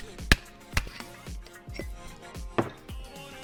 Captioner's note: thuds